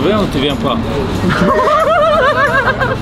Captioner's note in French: rires